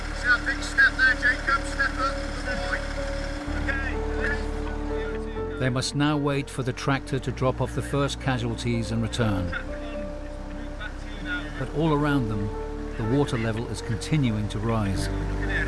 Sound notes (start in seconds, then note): 9.6 volunteers chattering; 15.4 gentle music